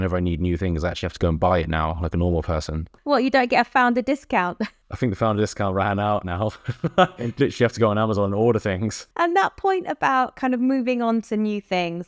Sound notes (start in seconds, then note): 4.5 chuckles; 6.5 chuckles